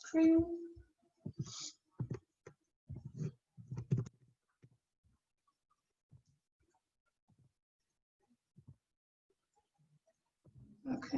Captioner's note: silence